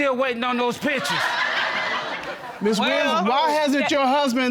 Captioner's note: audience laughing